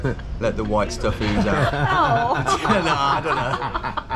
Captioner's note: laughter